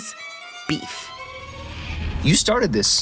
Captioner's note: soundbite of tv show, "beef"